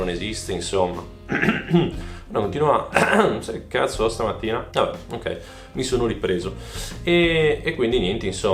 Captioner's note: coughing again like crazy